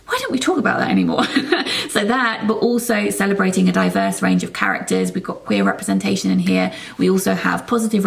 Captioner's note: laughs